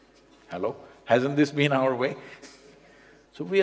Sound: laughs

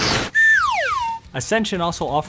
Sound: slide whistle

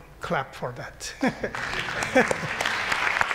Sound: laughter; applause

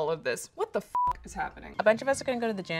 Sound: beep

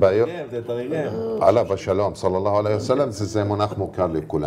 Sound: in Arabic

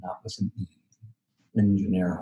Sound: foreign language

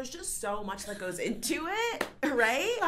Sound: laughs

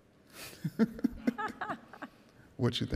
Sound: laughing

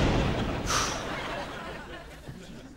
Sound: sighs

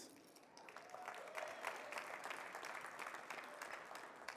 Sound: audience clapping

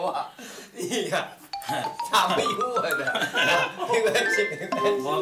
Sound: beginning to giggle

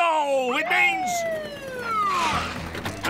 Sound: siren blaring

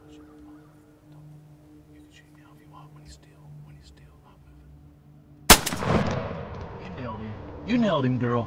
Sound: whispering

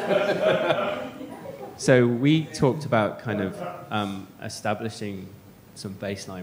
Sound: laughter

